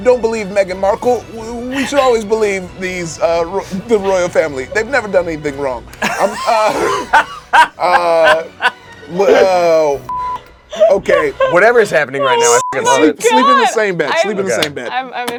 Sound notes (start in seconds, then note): 6.0 everyone laughs; 10.1 beep; 12.4 beep